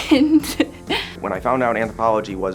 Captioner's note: laughing